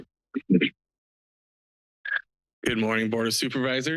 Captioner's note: background chatter